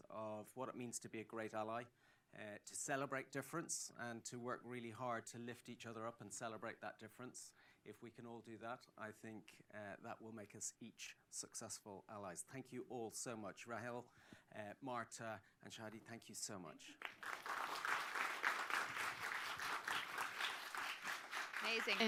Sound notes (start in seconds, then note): 17.0 applause